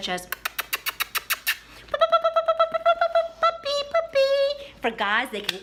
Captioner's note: audible high pitched noises made with mouth